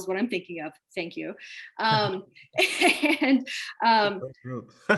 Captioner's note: chuckles